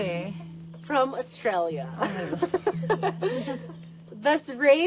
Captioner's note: laughs